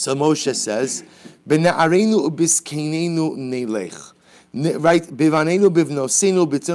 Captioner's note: Hebrew